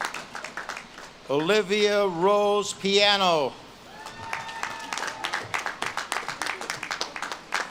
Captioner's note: audience claps and cheers